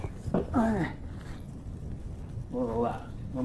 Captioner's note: David grunting